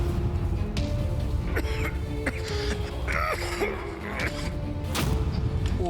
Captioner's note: coughs